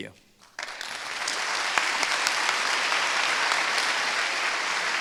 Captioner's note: applause